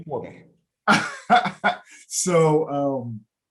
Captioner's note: laughing